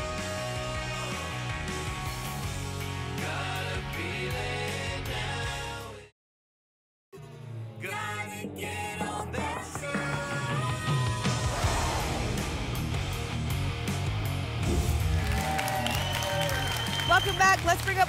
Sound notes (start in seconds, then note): 14.6 whoosh; 14.8 applause and cheering